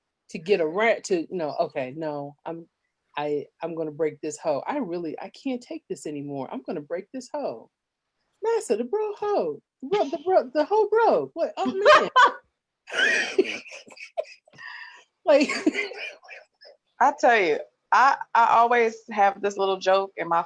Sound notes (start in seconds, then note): 11.6 laughs